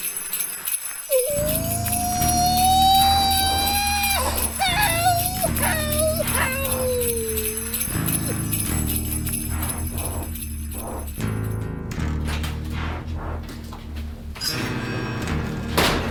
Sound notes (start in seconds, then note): 1.0 bizarre howling; 4.9 bizarre laughter; 9.2 dark music plays